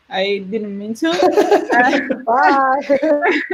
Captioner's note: laugh